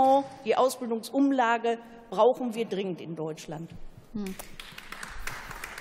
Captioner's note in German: Beifall